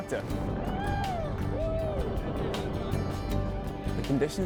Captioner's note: cheering